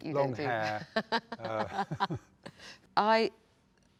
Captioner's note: both laugh